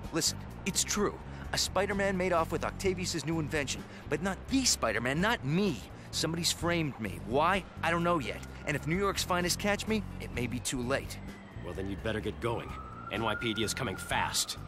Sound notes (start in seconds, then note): none